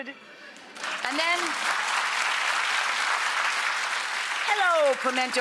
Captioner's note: audience applauding